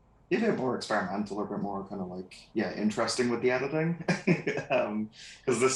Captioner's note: laughs